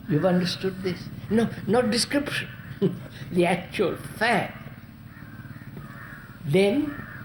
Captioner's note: laughs